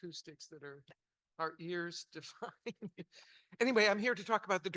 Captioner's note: chuckles